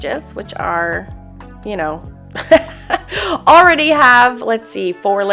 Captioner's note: laughs